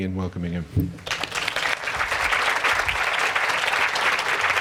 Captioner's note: applause